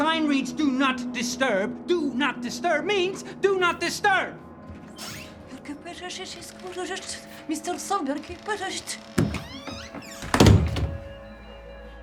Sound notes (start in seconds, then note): 5.6 door creaks; 6.6 woman speaking in unknown foreign language; 9.2 door slams